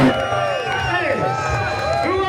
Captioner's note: crowd cheering